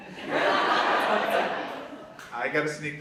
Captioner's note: audience laughs